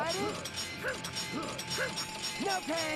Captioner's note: grunting